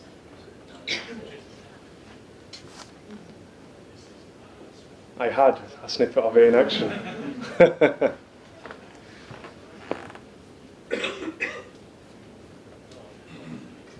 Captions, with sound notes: I had a snippet of it in action. (audience laughs) (laughs)